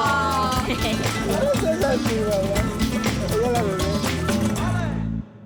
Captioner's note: speaking Spanish